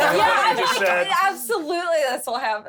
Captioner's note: laughs